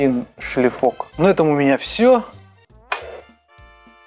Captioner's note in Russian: щёлк